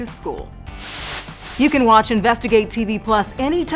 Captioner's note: air whooshes